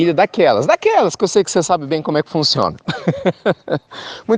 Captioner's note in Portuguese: risos